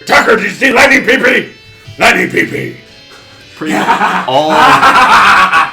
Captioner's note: laughs maniacally